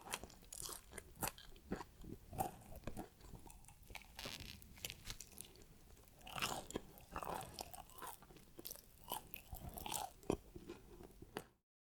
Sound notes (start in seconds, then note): 6.0 eating sound